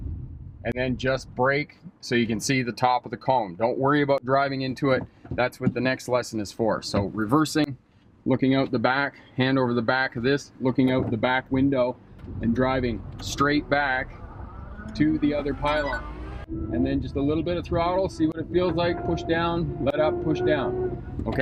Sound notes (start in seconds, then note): 14.0 engine whirring; 14.7 computer beeps